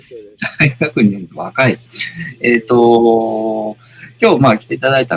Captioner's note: laughs